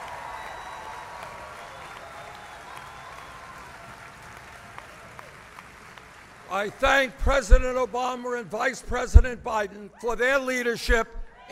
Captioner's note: applause